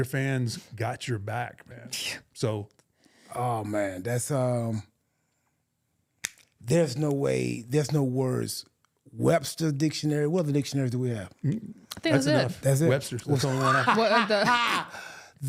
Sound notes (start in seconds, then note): 2.3 scoffing; 13.3 laughing